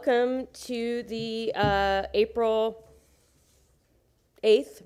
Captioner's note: sounding gavel